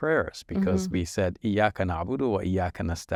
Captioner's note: speaks foreign language